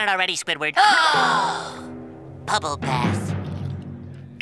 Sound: gasping

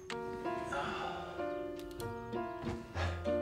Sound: sighs

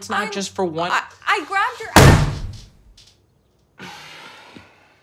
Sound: hand slams; Tyler sighs

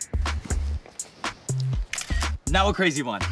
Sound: camera flashing

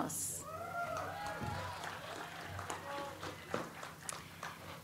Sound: audience applauds

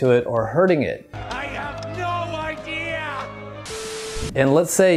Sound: static buzzing

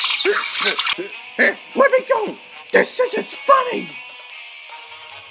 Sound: grunts

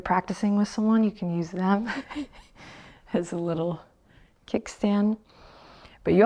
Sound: chuckles

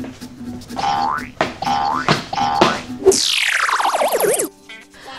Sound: whimsical music; springing sound effect

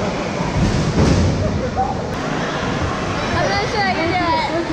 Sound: bang

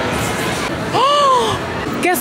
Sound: gasp

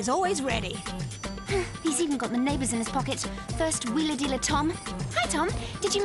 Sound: sighs

